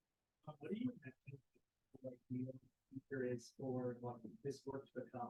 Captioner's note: speaker audio muffled